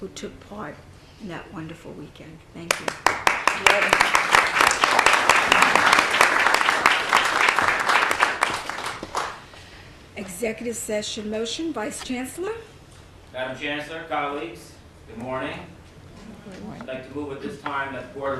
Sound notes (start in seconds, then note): 5.6 clapping